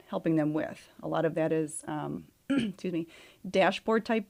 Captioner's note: clears throat